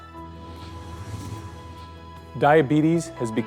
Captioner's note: contemplative music; whooshing